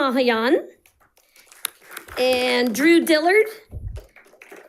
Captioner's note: audience applauding; audience applauding